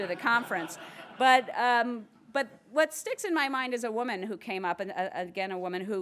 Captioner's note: laugh